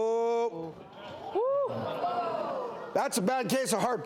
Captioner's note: audience gasps